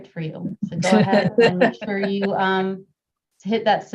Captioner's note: laugh